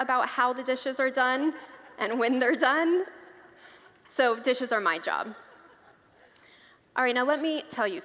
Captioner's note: congregants laugh